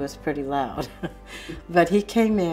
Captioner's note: chuckles